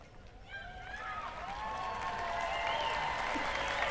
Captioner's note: cheering